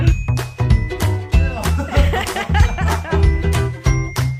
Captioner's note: laughs